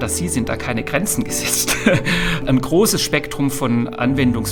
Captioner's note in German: gelächter